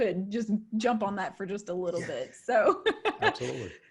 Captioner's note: laughs